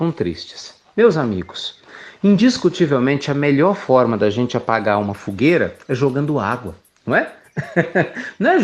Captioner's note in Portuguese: risos